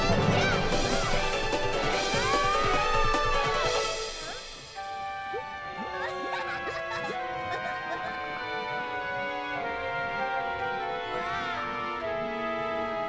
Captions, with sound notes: AAAHHHHH! HUH? (GIGGLES) WOW!